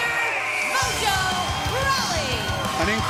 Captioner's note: bell ringing; cheers & applause